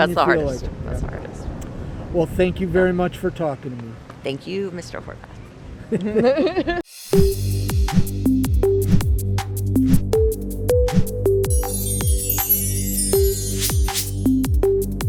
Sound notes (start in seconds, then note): 5.9 all laugh; 7.0 upbeat music